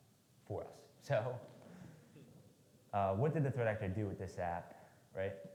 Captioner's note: laughs